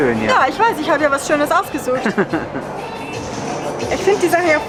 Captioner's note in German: lacht